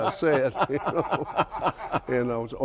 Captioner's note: both laugh